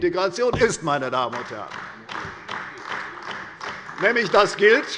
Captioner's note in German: Beifall bei der CDU